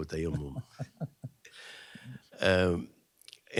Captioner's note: laughs